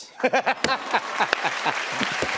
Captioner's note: laughs; applause